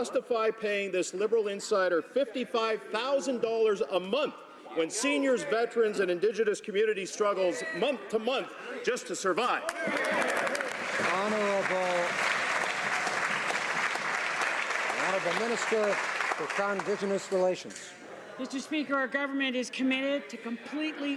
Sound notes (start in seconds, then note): 12.8 some Applause